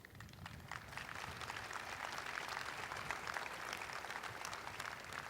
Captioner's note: audience applauding